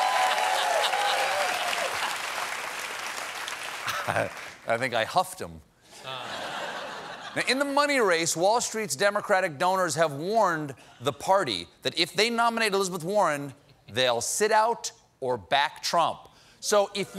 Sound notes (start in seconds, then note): 0.0 applause; 6.0 laughter